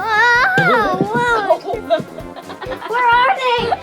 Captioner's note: circus music; laughing